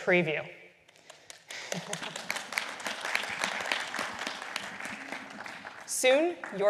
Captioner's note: applause